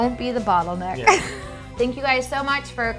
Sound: laughs

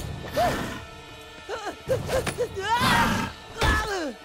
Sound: groaning

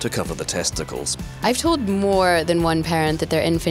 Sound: voiceover

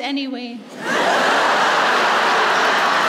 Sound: laughter

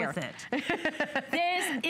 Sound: laughter

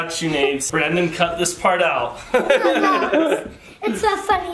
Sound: laughs

